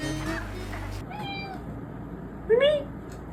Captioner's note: meows